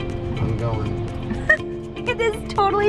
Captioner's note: chortles